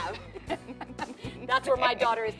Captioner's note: laughter